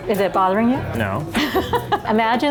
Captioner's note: laughing